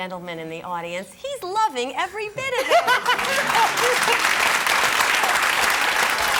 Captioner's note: audience applause